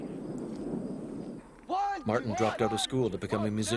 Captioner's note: voiceover